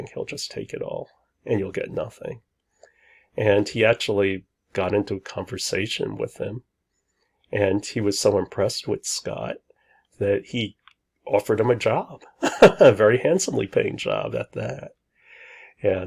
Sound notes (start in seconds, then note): 12.4 laughs